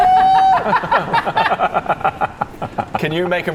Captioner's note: reckless laughter